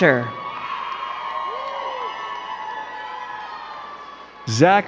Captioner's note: crowd cheering and clapping